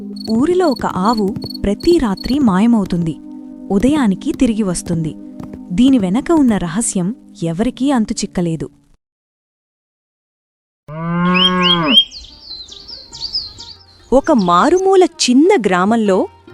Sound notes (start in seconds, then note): 10.9 cow Mooing; 11.2 birds Chirping